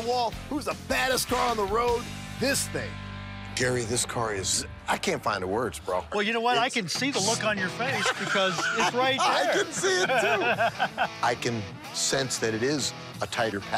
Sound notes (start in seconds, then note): 7.8 laughs